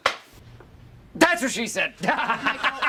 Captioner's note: laughs